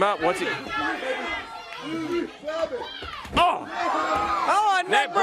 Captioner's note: crowd chatter